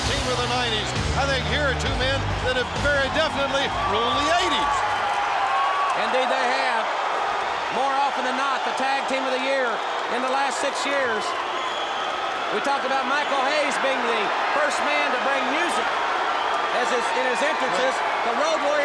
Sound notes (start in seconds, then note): 6.4 crowd cheering